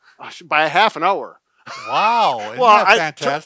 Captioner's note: laughing